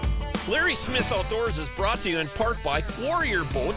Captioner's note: voiceover